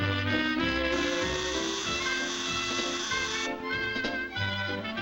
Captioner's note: doorbell buzzes